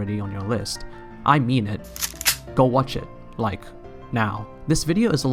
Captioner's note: loads gun